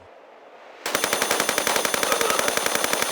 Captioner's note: bratatatata ♫